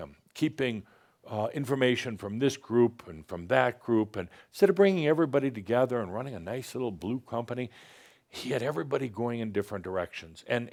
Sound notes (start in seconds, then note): none